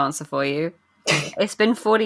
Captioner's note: laughs